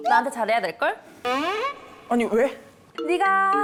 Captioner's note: confused sound effect